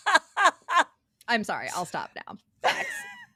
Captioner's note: laughing